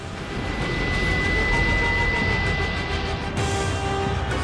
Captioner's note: train rumbling; dramatic orchestral music